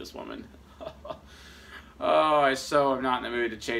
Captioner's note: laughs